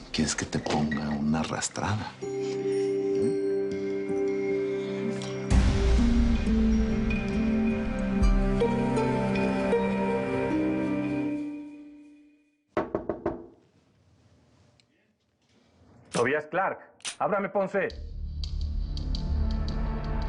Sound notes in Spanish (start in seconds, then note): 12.8 Toques en la puerta